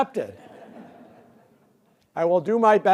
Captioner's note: laughter